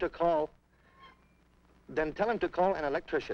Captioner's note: radio screeches